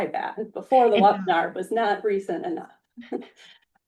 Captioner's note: laughs